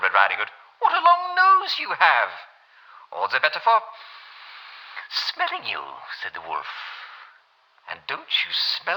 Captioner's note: German accent